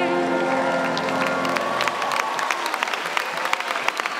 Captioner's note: cheers and applause